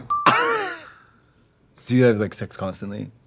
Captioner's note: Trixie laughs